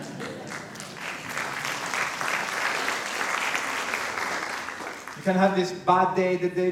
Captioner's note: light applause